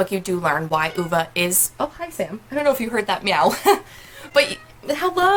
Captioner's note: meow; meow